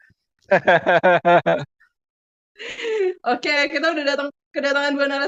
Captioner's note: laughs